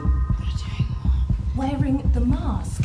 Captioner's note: whispered